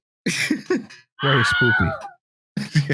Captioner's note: laughs; ungodly shriek